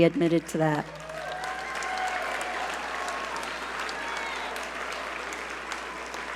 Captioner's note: audience cheer and applaud